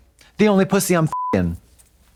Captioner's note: beep